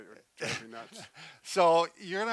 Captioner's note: laughs